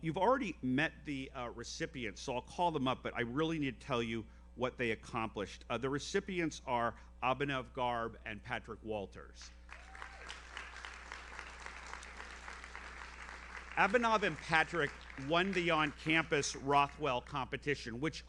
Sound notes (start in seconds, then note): 9.7 audience applauds; 9.8 audience member cheers